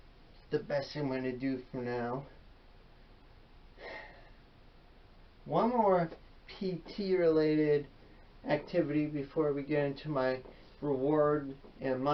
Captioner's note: sighs